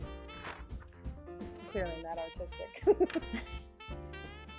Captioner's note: laughing